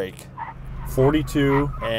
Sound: tires screeching

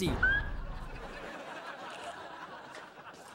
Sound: laughing

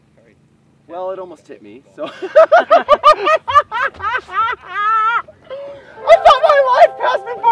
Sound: laughing

